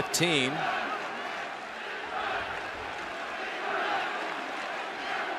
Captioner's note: crowd chanting